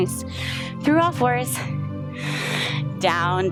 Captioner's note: exhales; inhales